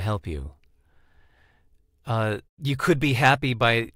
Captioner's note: westchnienie